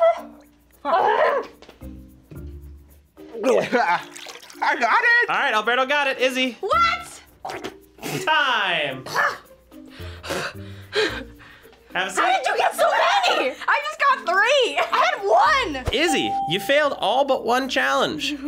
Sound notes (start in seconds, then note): 0.8 grunts; 3.7 grunts